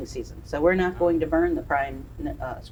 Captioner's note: background chatters